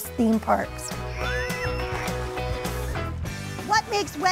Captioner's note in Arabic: تتواصل الموسيقى المبهجة; الناس يصرخون